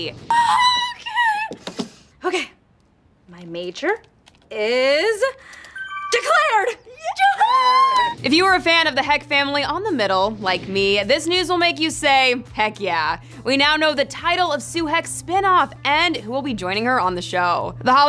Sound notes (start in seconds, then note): 0.2 high-pitched screaming; 5.6 computer chimes; 7.0 all screaming